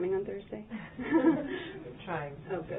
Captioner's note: laughter